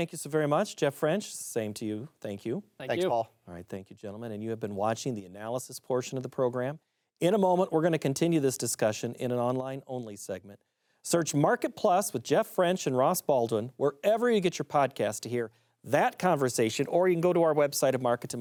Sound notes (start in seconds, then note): 4.2 French